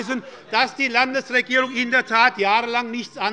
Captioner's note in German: Zurufe von der SPD und der FDP - Unruhe - Glockenzeichen des Präsidenten